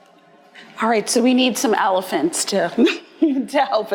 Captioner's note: chuckling